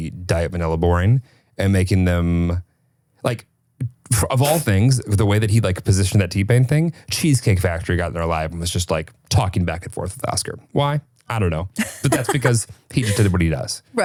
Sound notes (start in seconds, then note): 11.8 laughing